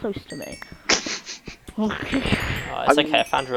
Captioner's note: laughing